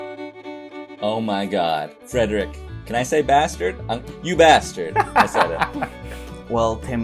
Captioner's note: laughter